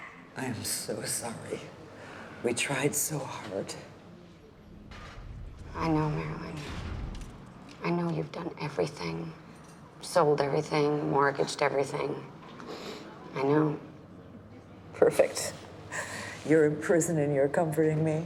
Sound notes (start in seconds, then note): none